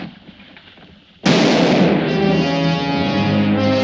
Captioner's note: gunfire pops; suspenseful orchestral music